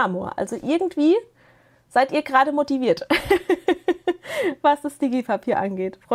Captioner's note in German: gelächter